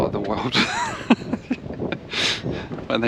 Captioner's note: laughs